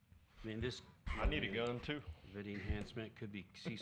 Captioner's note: laughter